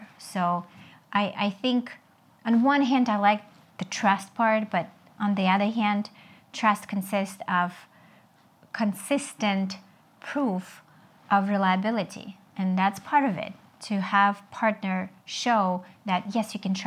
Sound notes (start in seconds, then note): none